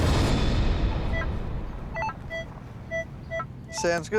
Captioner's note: beeping